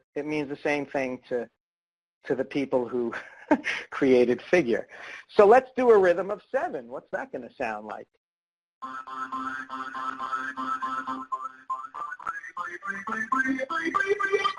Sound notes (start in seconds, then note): 3.6 laughs; 8.8 electronic music